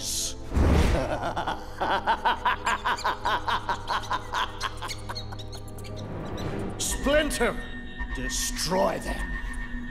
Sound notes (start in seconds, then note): 0.9 laughing; 3.8 squeaking